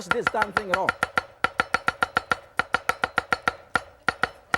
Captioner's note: knife chops fast